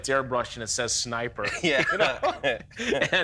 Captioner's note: laughter